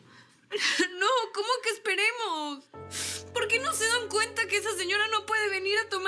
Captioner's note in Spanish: Sollozos